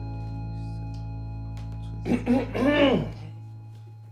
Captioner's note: Sam clears his throat